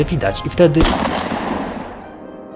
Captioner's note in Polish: dźwięk strzału z pistoletu